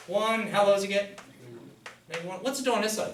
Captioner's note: voiceover